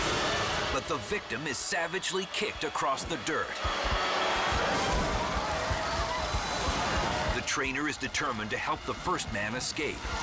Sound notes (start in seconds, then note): 4.7 victim thuds; 6.5 dramatic music continues